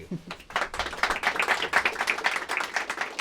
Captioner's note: applause